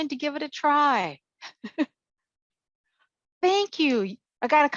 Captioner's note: giggles